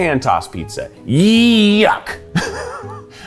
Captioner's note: laughs